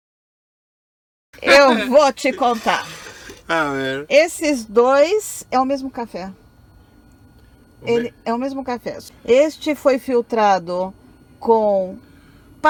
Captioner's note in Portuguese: risos